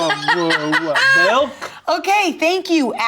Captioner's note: laughs